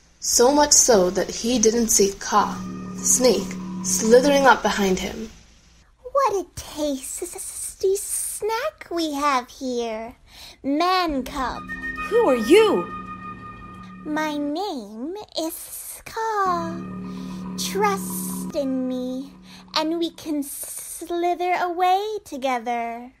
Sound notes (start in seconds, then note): 5.7 hissing